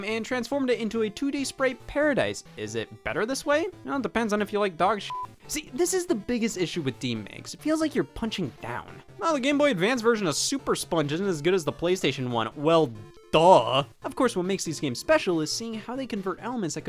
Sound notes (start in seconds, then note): 5.0 beep